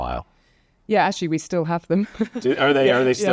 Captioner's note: laughs